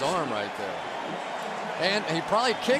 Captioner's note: cheering